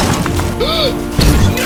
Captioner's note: gasp